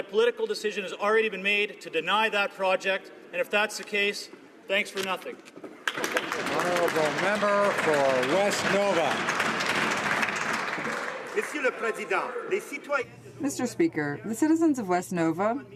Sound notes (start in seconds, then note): 9.2 some Applause